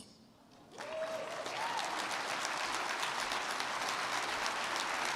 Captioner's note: crowd clapping